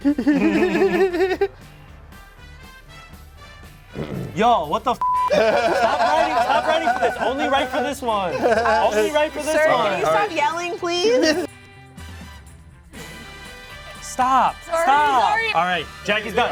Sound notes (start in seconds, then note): 0.2 laugh; 5.0 beep; 5.3 laughs